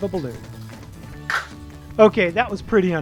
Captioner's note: lander thuds